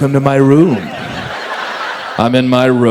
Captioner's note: audience laughs